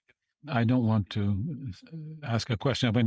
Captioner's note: speaking French